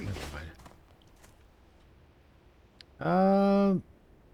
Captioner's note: footsteps